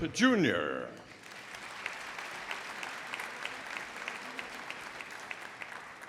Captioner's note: audience applauding